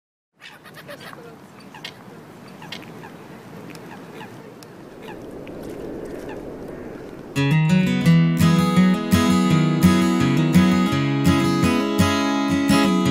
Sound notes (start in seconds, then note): 0.0 ocean breeze, small ocean waves crashing on the beach; 0.0 seagull's sounds